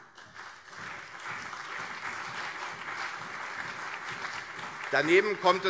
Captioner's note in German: Beifall CDU und SPD